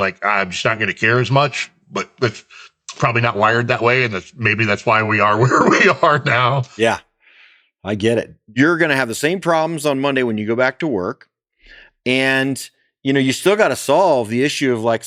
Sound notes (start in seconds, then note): 5.2 laughs